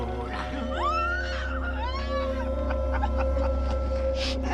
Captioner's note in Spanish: Gritos; Carcajada